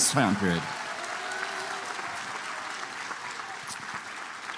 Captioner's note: applause